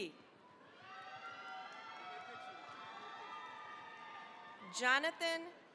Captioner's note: cheering, applause